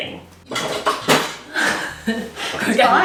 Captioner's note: utensils clatter